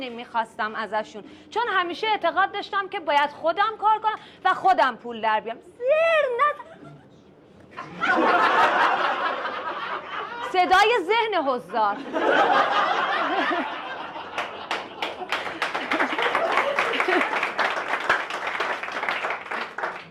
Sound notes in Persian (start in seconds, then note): 8.2 خنده